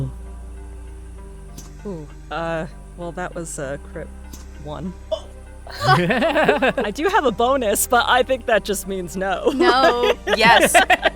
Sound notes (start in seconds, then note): 5.7 laughs; 9.9 laughs